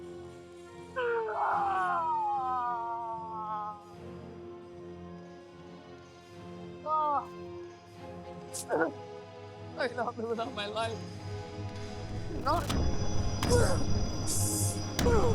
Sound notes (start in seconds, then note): 0.9 screaming; 3.3 soft dramatic music